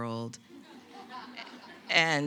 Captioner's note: audience laughing